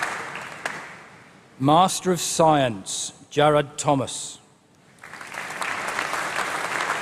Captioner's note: applause